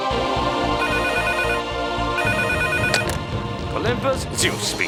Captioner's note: phone ringing